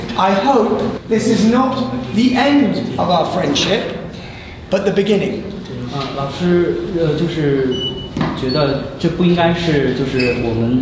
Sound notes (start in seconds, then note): 6.5 foreign language